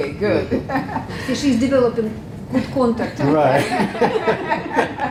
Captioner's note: laugh